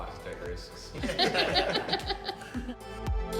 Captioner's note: laughter; upbeat music